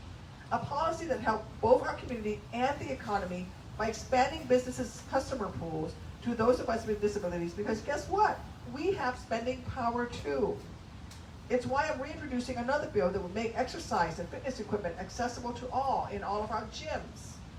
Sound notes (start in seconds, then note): none